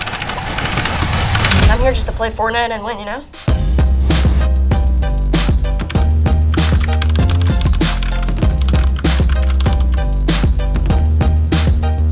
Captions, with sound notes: I'm here just to play Fortnite and win, you know? (upbeat techno music) (keyboard clicking)